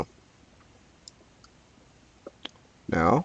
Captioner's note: mouse clicking